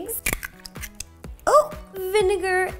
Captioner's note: makes surprised noise